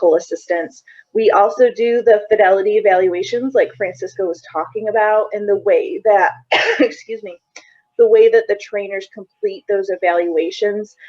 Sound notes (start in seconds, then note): 6.4 coughing